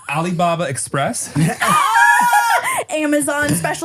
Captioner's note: everybody laughs